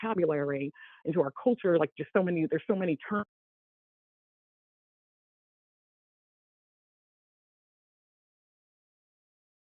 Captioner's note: audio cuts out